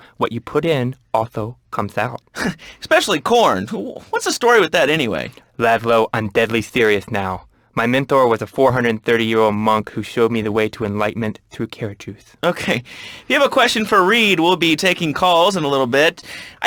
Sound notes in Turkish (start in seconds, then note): 4.7 peltek konuşur